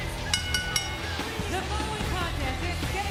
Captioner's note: bell dinging